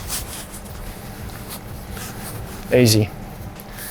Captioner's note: fabric rustling